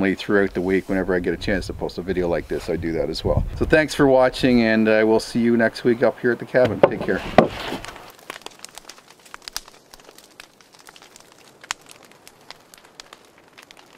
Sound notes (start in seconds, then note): 7.9 fire crackling